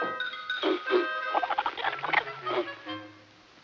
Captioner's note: chattering